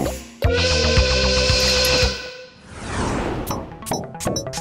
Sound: chooo!

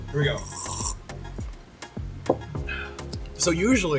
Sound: slurps the milk

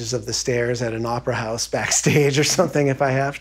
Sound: laughing

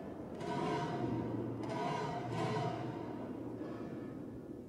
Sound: metal banging continues

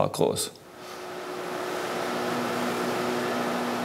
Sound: machine whirring

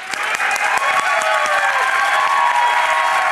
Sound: applause

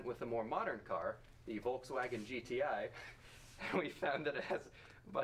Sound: laughs

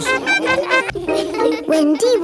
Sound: laughing

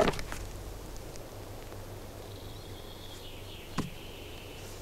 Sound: none

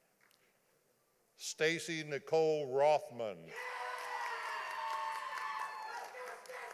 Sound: audience applauding

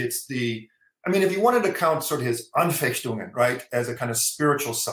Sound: german

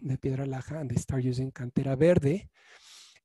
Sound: speaking in foreign language

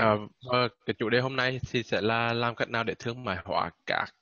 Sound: speaking Vietnamese

